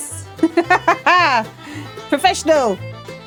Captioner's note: laughing